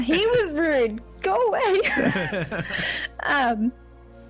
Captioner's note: chuckles